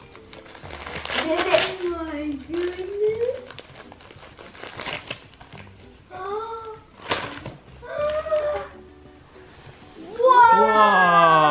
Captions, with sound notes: - Oh my goodness. (paper ripping) - Whoa!